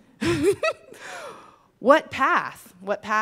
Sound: laughs

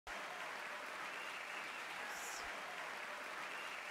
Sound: audience cheering

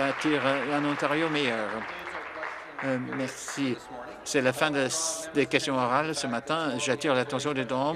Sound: applause

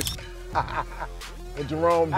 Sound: laughter; picture sound effect

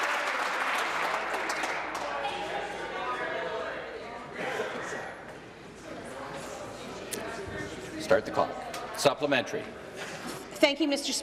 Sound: applause

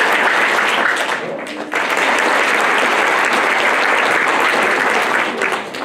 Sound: applause

